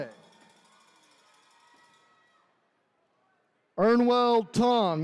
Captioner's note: attendees cheering